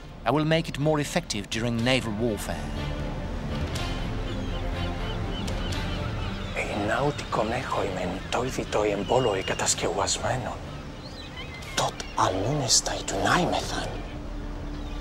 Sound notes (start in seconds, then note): 3.8 dramatic orchestral music; 6.7 speaking in foreign language